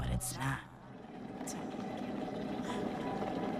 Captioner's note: water boils